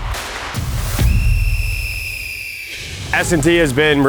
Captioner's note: whistle